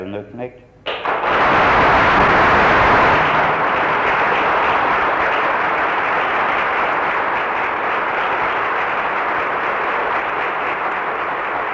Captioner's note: applause, then synchronized clapping